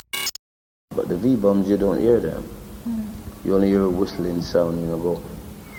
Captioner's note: whistles